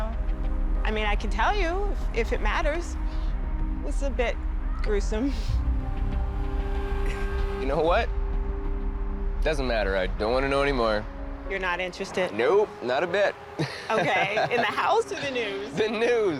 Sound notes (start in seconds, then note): 13.6 laughs